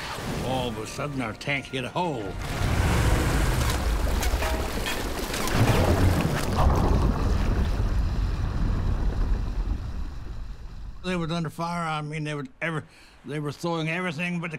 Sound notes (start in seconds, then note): 2.5 water splashing from missile shots; 5.5 gunfire exploding; 7.7 tank rumbling